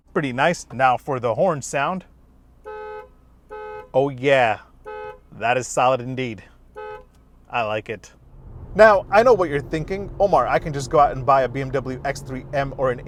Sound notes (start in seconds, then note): 3.4 horn blares